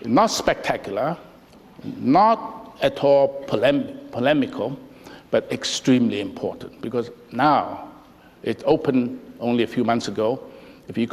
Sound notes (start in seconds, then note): none